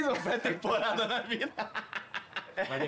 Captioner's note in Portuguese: risos